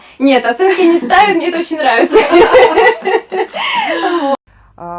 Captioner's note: laughing